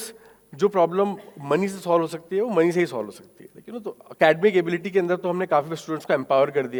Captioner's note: speaking in foreign language